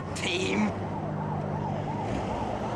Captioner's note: sirens